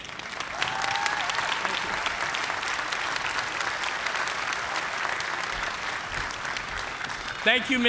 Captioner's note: applause